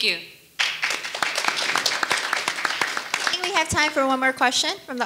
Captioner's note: audience applauding